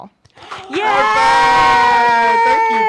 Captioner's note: claps